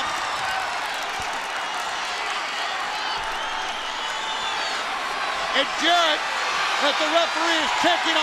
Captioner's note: crowd cheering